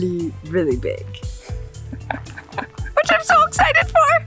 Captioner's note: laughs